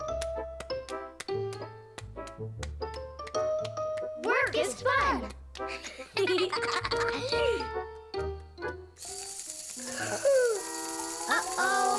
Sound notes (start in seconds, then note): 5.8 giggling